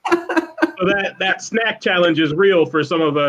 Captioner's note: laughter